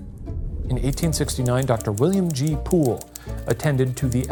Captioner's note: typewriter clicking